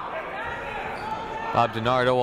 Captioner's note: people shouting in the crowd